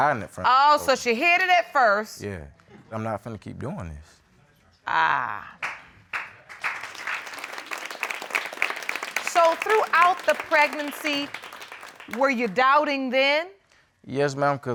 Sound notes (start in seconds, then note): 6.7 audience clapping